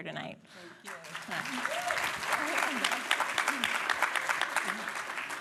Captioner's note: applause